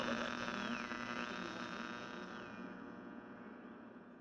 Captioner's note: static buzzes